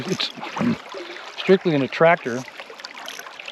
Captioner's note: reel spinning